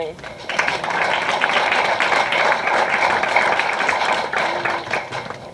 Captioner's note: applause